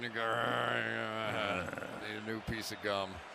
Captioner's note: grumbles